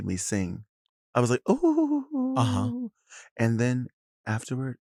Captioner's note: hums